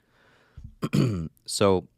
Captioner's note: clears throat